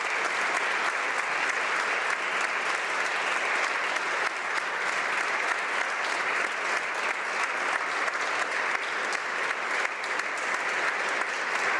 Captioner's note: applause